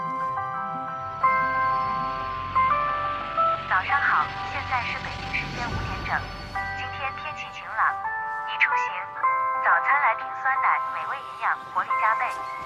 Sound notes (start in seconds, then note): 9.0 alarm